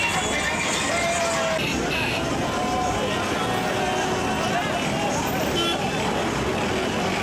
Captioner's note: car horns